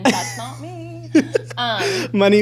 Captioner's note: laughs